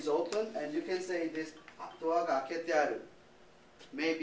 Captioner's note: speaking japanese